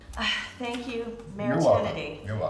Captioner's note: sighs